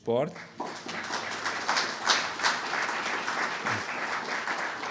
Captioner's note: audience clapping